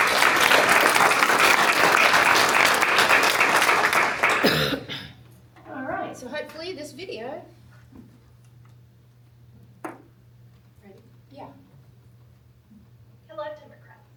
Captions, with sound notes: [APPLAUSE] All right. So hopefully this video-- yeah. Hello, Democrats.